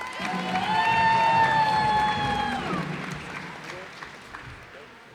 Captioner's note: cheers and applause